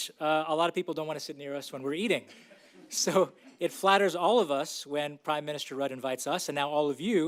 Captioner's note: laughs